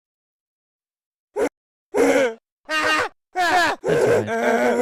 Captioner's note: game grunting noises